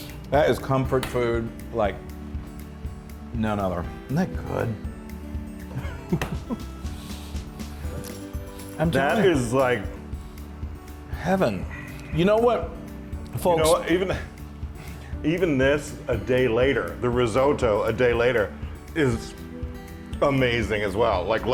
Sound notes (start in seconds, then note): 5.7 laugh